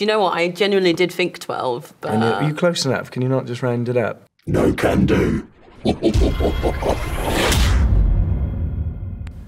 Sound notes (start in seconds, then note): 5.6 evil laugh